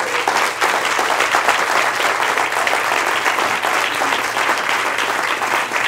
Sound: applause

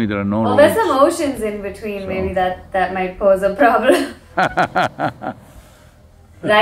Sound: both laugh

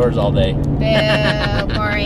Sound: laughing

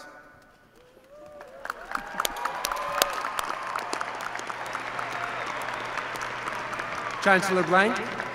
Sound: applause

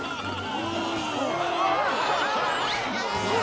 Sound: gasping; cheering

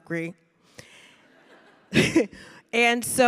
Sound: audience laughing

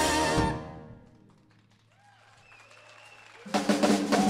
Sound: audience applauding; music continues

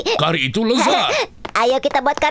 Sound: giggling

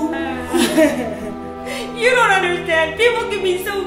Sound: sobs

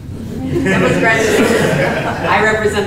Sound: laughter

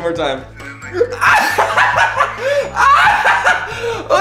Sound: laughs

